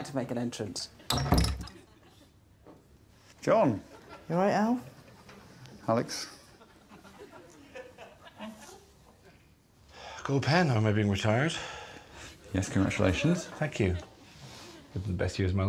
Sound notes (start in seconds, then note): 12.8 sighs